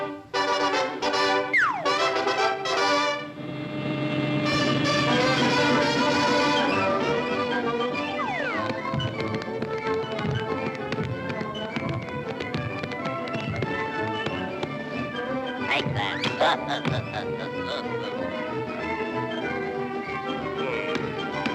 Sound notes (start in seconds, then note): 1.5 dramatic music; 3.1 machines whirring; 6.0 upbeat music; 8.0 feet thudding; 9.2 upbeat music continues; 18.2 upbeat music continues